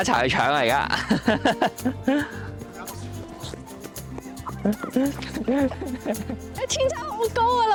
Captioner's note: laughter